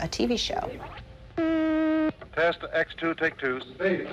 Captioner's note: machine hums